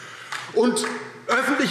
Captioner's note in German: Beifall DIE LINKE